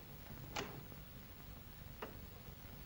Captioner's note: door opens